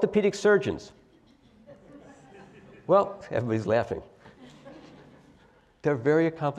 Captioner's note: laugh